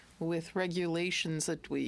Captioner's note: speaking French